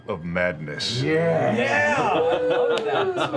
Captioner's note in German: Jubel